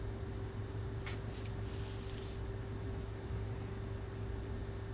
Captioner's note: wig rustling